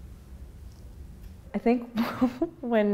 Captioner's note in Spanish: ríe